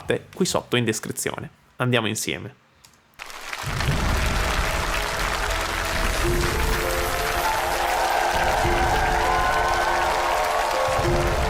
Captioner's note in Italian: Applauso